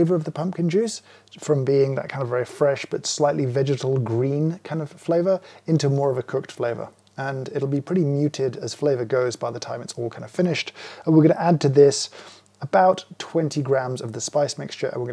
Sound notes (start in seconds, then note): none